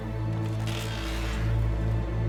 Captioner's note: creaking